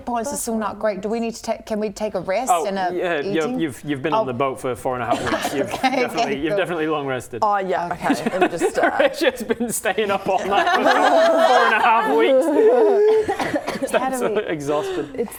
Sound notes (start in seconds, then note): 12.6 gasp